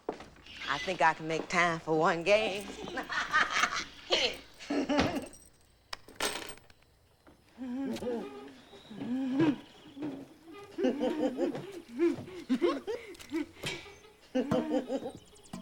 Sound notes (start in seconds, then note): 5.2 laughs; 10.0 laughing and giggling